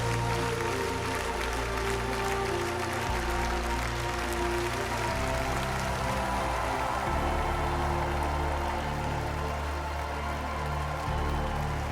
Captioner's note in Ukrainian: оплески